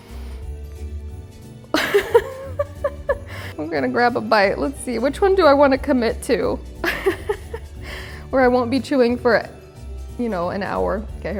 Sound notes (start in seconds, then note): 0.1 laughs; 0.1 light music continues; 6.8 laughs